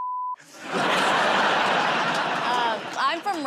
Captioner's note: laughter